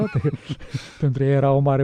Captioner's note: laughter